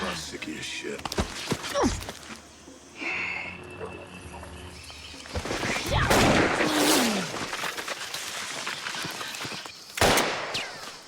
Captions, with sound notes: I'm sick of your shit. Ugh! (Gunshot)